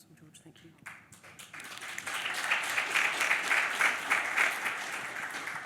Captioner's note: audience applause